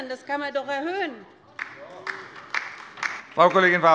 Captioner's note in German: Beifall bei der LINKEN